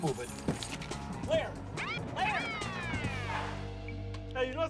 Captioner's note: siren wails